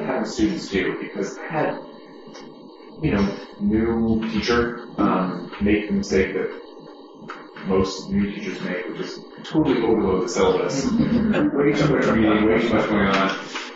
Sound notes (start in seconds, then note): 10.8 laughter